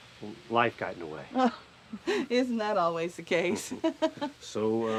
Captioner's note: chuckles